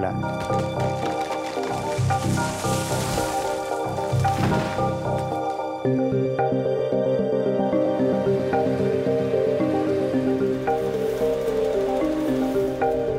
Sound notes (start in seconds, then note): 0.2 tree falling; 0.9 contemplative music playing